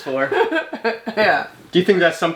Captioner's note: laughing